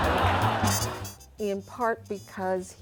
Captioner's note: audience laughing